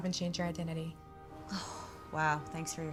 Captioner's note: sighs